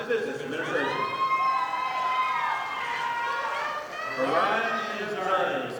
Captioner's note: audience applauding